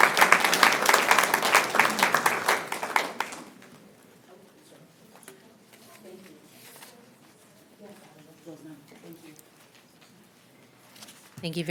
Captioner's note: applause